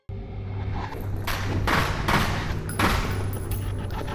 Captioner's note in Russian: беспорядочный огонь